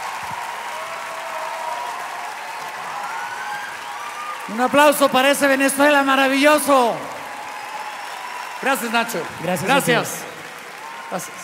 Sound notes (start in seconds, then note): 0.0 Gritos y aplausos; 7.2 Gritos y aplausos; 10.4 Gritos y aplausos